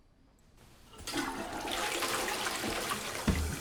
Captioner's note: toilet flushes